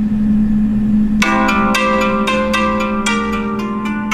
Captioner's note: alarm clock rings